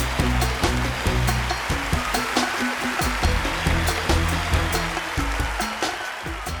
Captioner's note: audience continues applauding